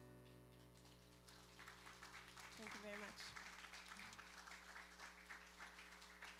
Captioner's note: applause